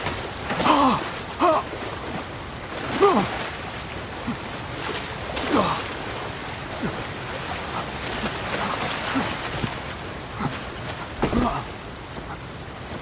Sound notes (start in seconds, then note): 0.8 gasping